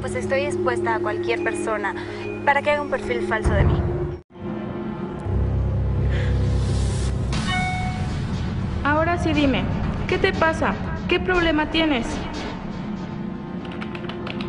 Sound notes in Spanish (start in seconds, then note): 7.4 Alerta de mensaje